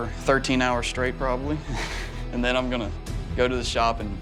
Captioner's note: chuckles